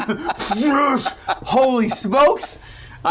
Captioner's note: grunting